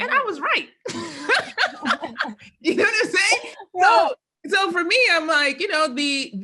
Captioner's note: laugh